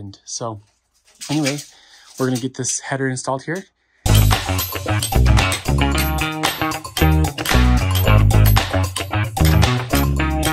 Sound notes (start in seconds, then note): 4.0 upbeat music; 4.1 bolt rattling